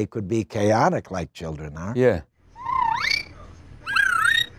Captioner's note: kids whistle